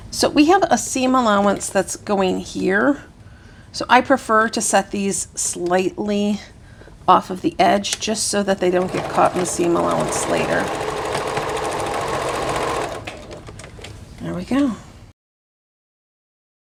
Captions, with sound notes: So we have a seam allowance that's going here. So I prefer to set these slightly off of the edge just so that they don't get caught in the seam allowance later. (sewing machine whirring) There we go.